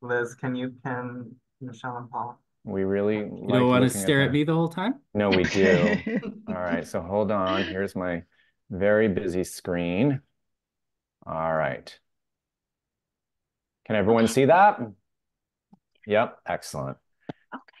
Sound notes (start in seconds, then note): 5.3 laughing